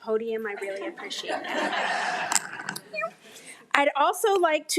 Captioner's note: audience laughing